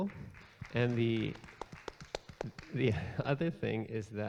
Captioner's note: audience claps